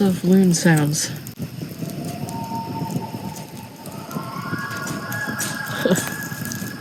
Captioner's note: loon calls in the distance